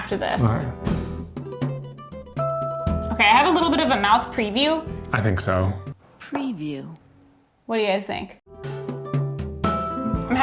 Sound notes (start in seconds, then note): 6.2 Electronic voice; 8.4 smooth music continues